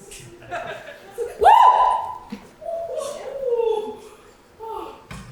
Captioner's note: screams